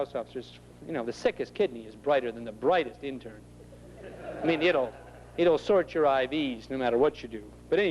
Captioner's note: laughter